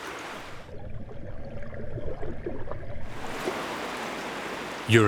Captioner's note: water sloshes